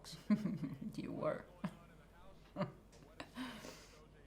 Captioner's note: chuckles